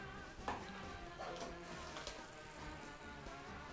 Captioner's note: sizzling